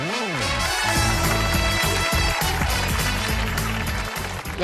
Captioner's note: applause